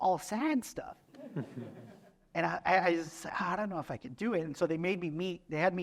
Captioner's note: laughter